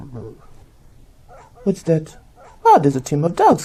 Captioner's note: subtle sound of wind is heard, and sled dogs barking in the distance